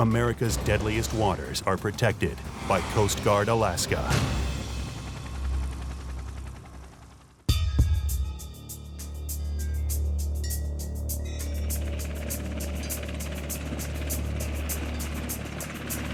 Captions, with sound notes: America's deadliest waters are protected by Coast Guard Alaska. (helicopter blades spinning) (ominous music) (truck engine running)